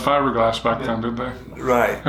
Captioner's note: chuckling